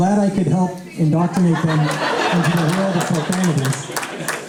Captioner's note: laughter